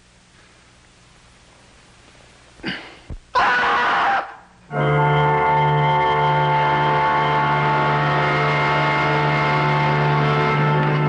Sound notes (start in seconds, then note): 6.2 screaming; 8.0 dramatic music